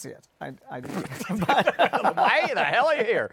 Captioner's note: laughs